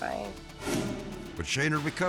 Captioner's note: air whoosh